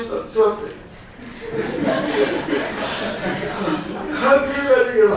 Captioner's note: laughter from the audience